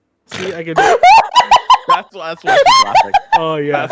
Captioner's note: dying with laughter